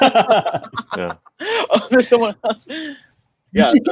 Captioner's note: laughing